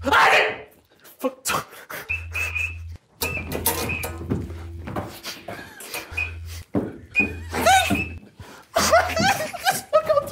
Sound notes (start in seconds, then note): 0.0 Harry yells; 3.2 metal squeaking; 7.4 Harry whimpering